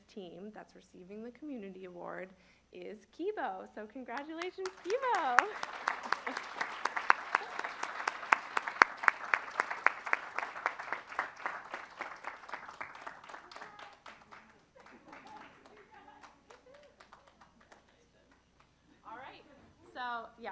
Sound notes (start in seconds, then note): 4.1 applause